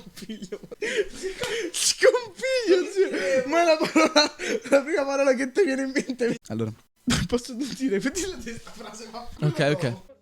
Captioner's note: laughs